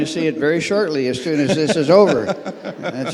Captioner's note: laughs